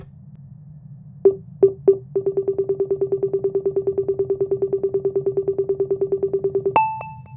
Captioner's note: booping frequency increases